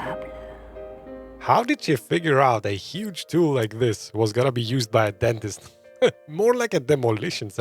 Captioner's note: laughs